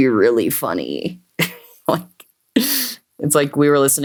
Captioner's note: laughs